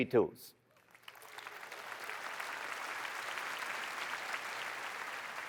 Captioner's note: applause